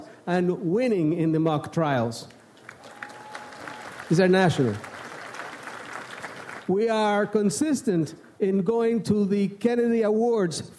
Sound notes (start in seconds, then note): 2.6 audience applauds; 5.3 applause continues